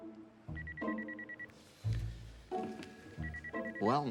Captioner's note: telephone ringing